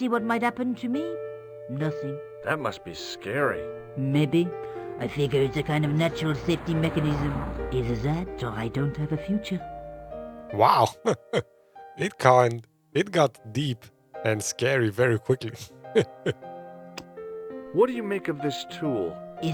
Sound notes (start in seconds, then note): 11.0 laughs